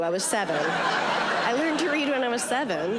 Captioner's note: audience laughing